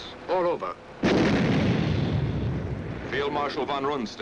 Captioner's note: bomb exploding